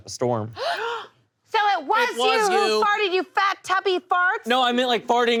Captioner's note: gasps